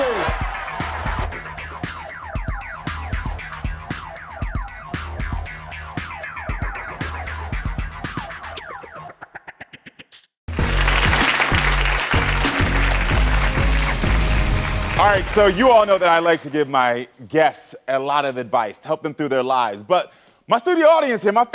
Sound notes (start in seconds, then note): 10.5 audience clapping